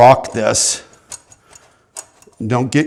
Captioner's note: metal clanking